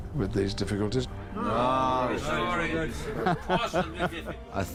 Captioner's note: MEN CHATTERING AND McKELLEN LAUGHS